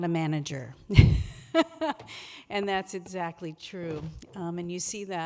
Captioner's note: laughs